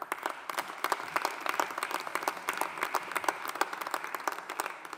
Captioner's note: audience applauding